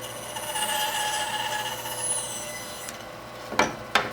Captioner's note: tool squealing